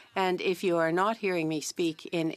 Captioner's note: speaking French